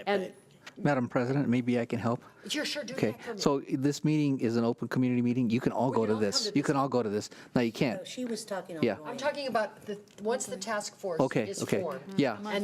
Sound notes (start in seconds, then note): none